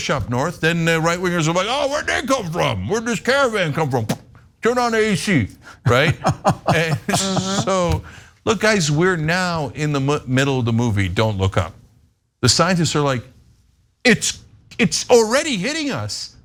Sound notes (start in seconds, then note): 5.8 laugh